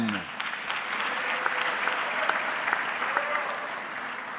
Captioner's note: audience clapping